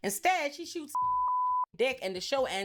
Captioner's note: beep